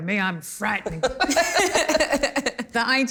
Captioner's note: laughter